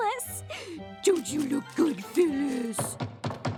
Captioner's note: funny voice